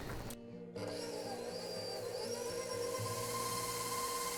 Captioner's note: whirring